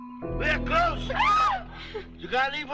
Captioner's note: all screaming